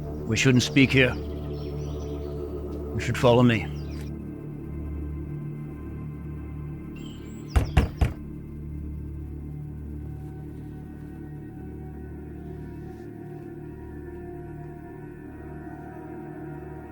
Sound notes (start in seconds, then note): 7.5 knuckles rapping; 10.7 gentle ominous music